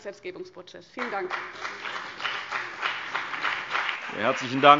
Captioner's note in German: Beifall BÜNDNIS 90/DIE GRÜNEN und vereinzelt CDU